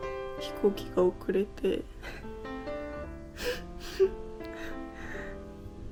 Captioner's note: crying laughing